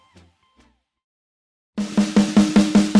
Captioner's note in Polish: cisza